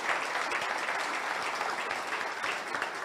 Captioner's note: audience applauds